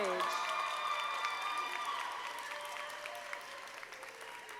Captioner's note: audience applauding